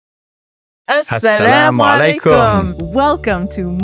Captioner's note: both speaking non-English language